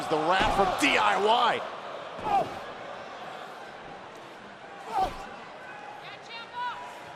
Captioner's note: crowd chatter